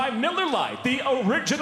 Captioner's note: none